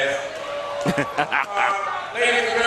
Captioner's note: laughs